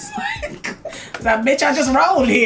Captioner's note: laughs